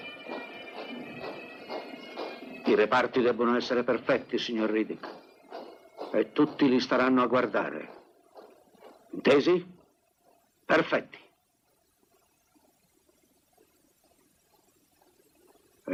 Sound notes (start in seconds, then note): 0.1 boots marching; 6.2 bagpipes fade; 9.9 marching fades